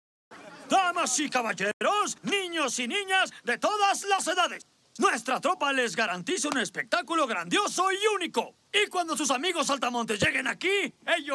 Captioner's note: speaking some Spanish